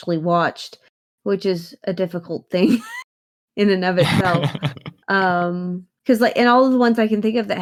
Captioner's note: laughs